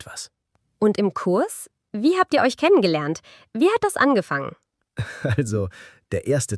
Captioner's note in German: gelächter